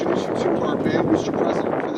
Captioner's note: wind